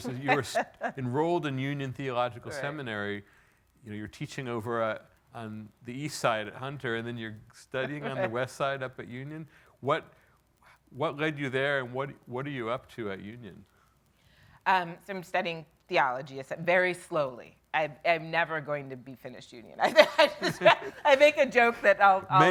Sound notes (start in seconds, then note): 19.8 laughing